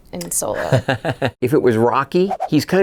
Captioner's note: laughing